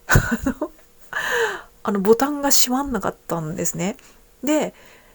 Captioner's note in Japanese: 笑い